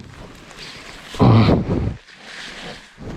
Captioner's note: grunts